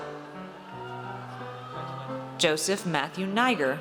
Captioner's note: audience cheers